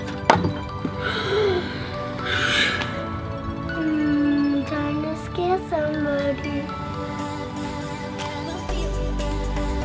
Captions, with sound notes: (thump) (sighs) - Time to scare somebody.